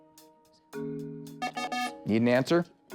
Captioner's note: time-Up Buzzer